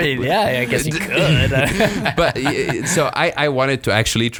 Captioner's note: laughs